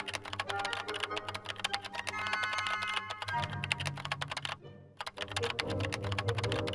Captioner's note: classical music; keyboard tapping